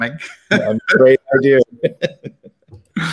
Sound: laughter

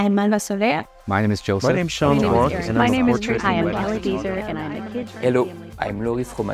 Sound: A murmur of people talking

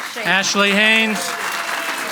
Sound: audience applauds and cheers

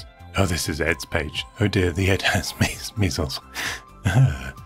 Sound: laughs

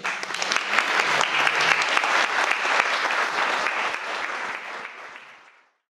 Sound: audience applauding

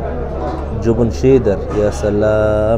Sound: Arabic

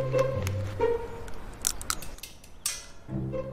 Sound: crack

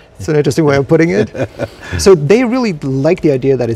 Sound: laughs

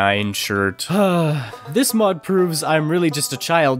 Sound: sigh

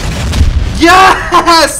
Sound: cannon firing

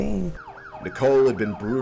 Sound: sirens blaring

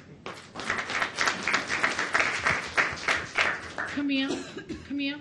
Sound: audience applauds

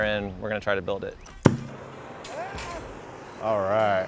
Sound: flame whirring

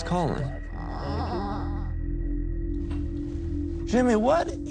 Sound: child groans

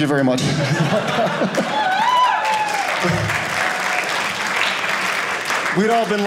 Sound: audience cheering

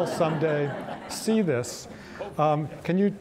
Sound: audience laughing

